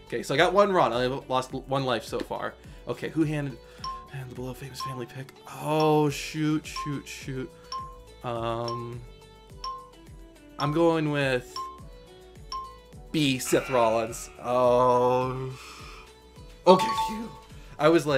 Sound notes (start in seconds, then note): 6.6 countdown timer ticks down; 14.7 countdown timer buzzes